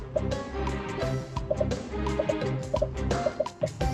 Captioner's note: dramatic music; popping